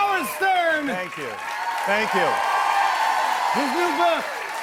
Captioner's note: cheers and applause